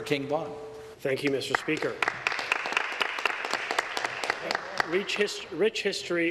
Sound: some applause

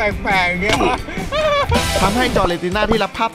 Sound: laughs

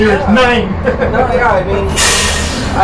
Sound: laughs

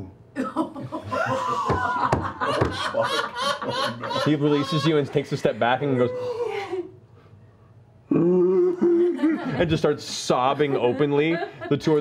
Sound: sobbing

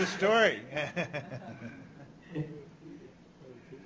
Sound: chuckles

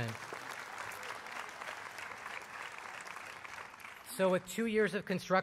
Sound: applause

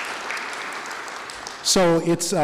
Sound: applause

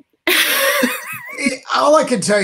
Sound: laughs

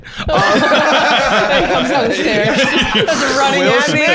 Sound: all laughing

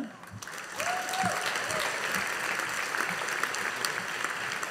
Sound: audience applauding

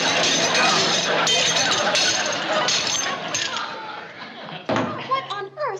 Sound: dishes breaking

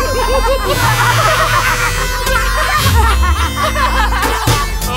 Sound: all laugh hysterically

